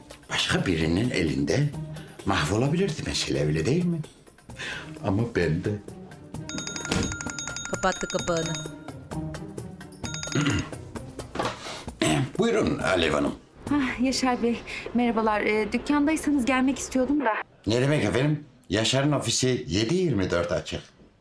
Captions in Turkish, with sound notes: ...başka birinin elinde mahvolabilirdi mesela, öyle değil mi? Ama bende. (Telefon zili sesi) (Telefon zili sesi) (Boğaz temizleme sesi) Buyurun Alev Hanım. Hah Yaşar Bey, merhabalar. Dükkândaysanız gelmek istiyordum da. Ne demek efendim, Yaşar'ın ofisi 7/24 açık.